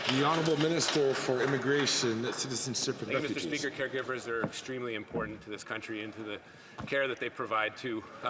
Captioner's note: some Applause